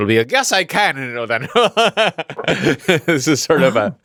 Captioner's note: laughs